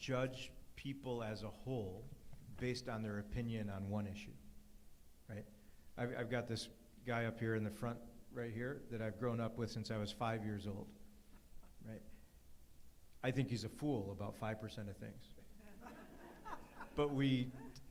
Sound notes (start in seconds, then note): 10.9 audience chuckles